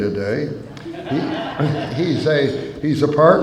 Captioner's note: laughter